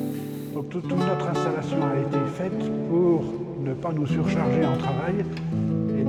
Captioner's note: talks french